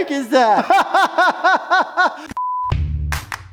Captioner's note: laughs; upbeat Intro Music